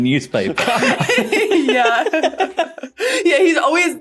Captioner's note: group laughing